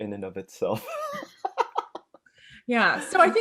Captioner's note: laughing